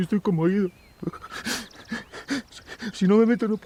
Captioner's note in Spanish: Sollozos